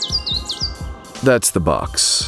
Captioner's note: tweeting bird sounds